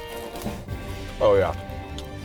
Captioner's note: potatoes crunching